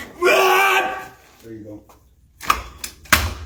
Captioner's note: screaming